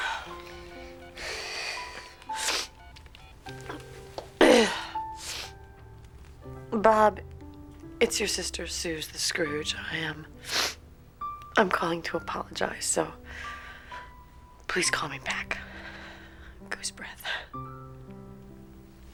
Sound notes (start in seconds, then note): 0.2 dialing; 4.4 clears throat